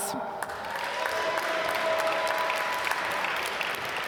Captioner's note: applause